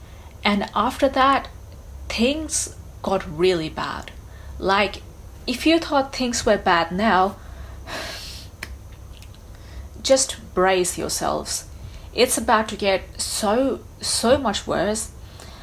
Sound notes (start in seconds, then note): 7.8 sighs